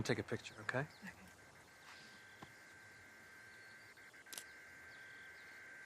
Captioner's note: buzzing sound